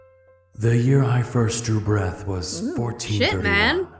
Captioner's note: game audio